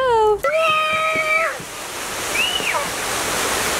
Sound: joyful screams

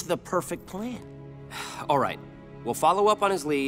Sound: sighing

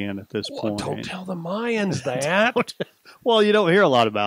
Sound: chuckles

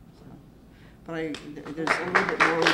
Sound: applause

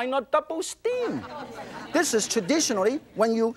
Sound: audience laughs

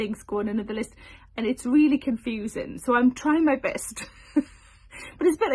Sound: chuckles

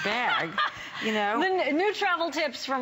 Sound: laughter

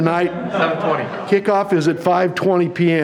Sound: audience laughing

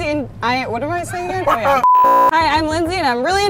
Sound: laughing; beep

